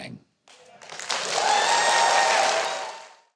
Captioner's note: crowd cheering and clapping